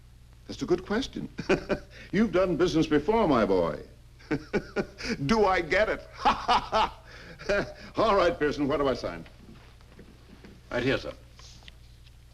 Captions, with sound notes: That's a good question. (laughs) You've done business before, my boy. (laughs) Do I get it? (laughs) All right, Pearson, where do I sign? - Right here, sir.